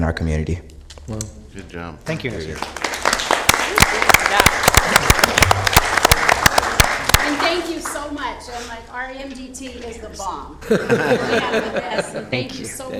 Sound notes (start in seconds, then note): 2.1 applause